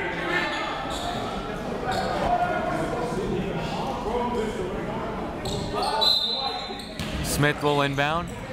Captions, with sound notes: (whistle) Smith will inbound.